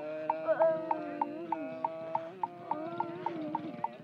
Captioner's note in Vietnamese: Tiếng khóc; Tiếng mõ; Tiếng khóc